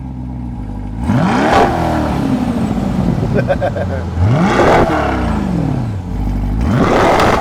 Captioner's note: Vette engine rumbles; engine revs; laughs